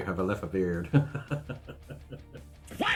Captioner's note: laughs